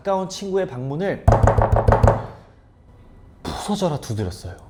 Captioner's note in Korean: 쾅 쾅 쾅 쾅 쾅 쾅